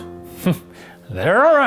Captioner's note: scoffs